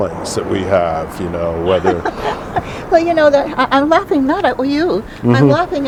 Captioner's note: laughing